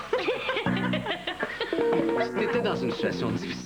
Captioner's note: Rires